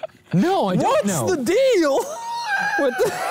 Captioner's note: wheeze